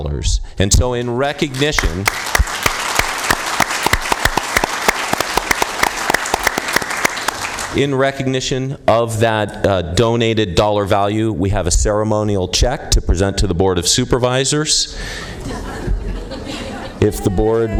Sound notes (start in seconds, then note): 5.2 applause